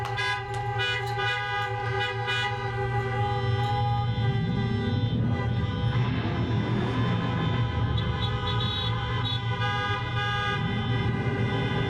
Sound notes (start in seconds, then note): 5.2 car engine revving